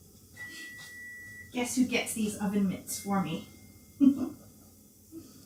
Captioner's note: beeps; giggles